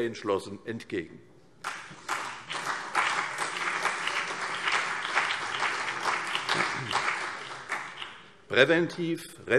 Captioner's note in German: Beifall CDU und BÜNDNIS 90/DIE GRÜNEN